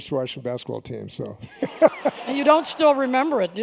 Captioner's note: laughter